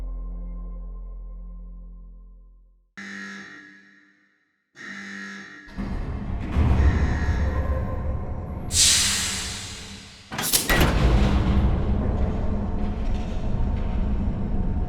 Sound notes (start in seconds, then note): 3.0 siren buzzes; 5.7 metal clanking and creaking; 8.7 steam hisses